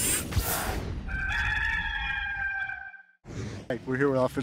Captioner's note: cockerel call